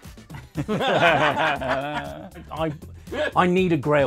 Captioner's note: all laughing